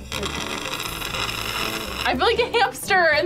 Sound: both slurping

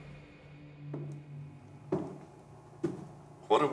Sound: footsteps

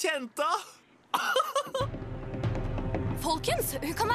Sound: laughs

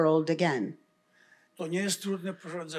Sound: foreign language

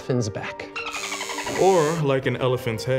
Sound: dolphin chirping; elephant trumpeting

